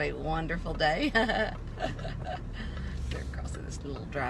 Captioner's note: laughs